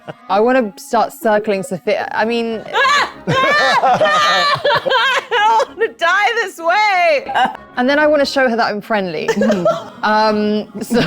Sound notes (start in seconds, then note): 2.7 screams